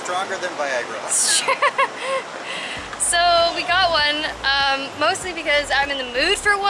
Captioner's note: laughter